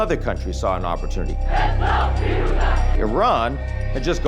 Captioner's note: crowd chanting